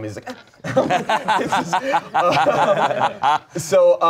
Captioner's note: everyone laughs